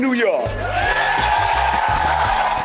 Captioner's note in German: Jubel